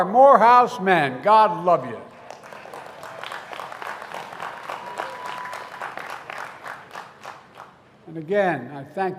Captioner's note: applause